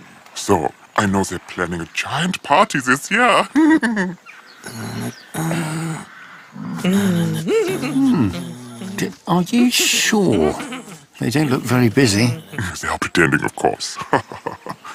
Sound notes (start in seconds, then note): 2.6 chuckles; 7.9 chortles; 14.2 chuckles